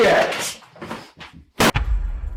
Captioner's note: slam